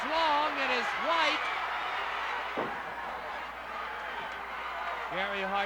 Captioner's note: crowd cheering; crowd yelling